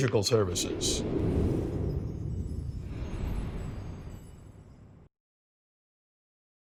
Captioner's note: wind whooshing; bells chiming